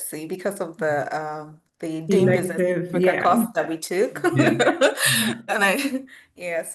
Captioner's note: laughs